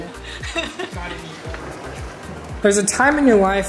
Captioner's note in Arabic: يضحك